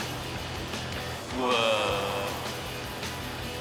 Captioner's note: none